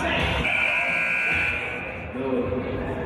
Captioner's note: buzzer